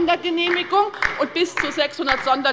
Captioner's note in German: Beifall bei der LINKEN